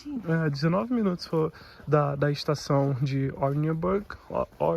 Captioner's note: walking